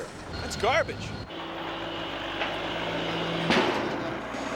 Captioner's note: motor whirring